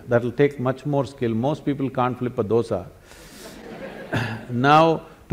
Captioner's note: laughter